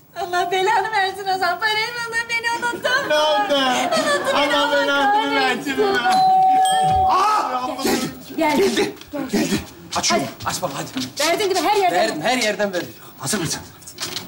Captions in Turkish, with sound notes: -Allah belanı versin Ozan. Parayı buldun beni unuttun mu? -Sahi mi? -Unuttu beni. Allah belasını versin o zaman. (Zil çalar) -Geldi geldi geldi. Açıyorum. -Aç baba hadi. -Verdin değil mi her yerden? -Her yerden verdim. -Hazır mısınız? -Hadi.